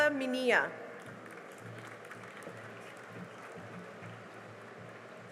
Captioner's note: cheering and applause